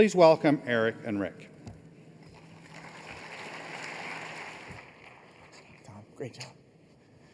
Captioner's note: applause